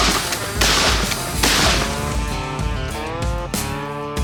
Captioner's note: three gunshots